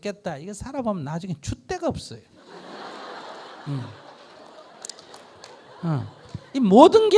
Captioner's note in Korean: 청중 웃음